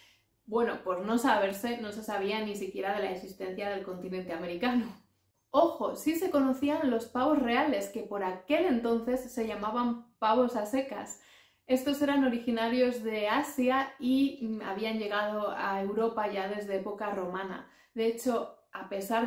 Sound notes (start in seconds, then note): 10.8 in spanish